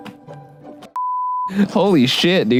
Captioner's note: beep